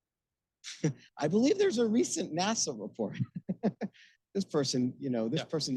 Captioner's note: laughing